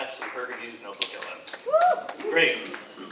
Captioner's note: audience cheers and applauds